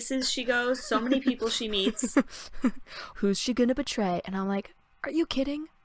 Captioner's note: laughs